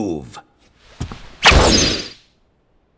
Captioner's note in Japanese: 衝撃音